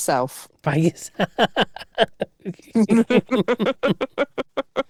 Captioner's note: both laugh